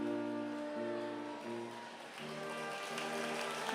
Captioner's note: applause